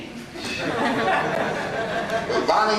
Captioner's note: audience laughing